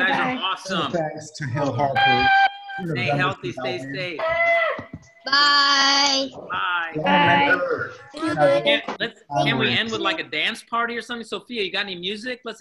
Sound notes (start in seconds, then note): 1.8 soundboard hooting